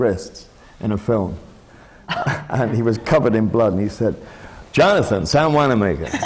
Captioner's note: does the american accent; laughter